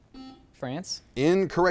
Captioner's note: buzzer chimes